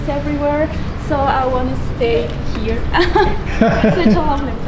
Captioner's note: laughs; chuckles